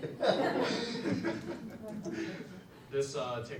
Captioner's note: audience laughs